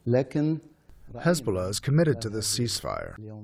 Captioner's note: through translator